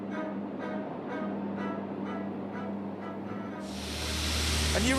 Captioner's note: plane engine roaring